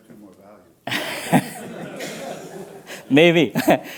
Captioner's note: laughter